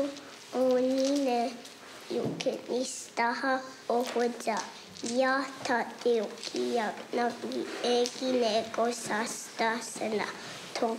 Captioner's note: speaking native language